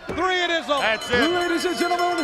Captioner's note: bell ringing